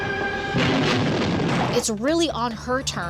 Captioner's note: explosion